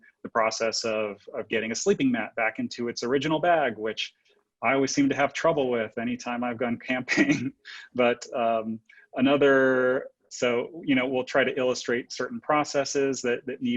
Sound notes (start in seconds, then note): 8.3 laughs